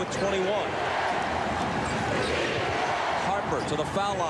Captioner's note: crowd chanting, "defense"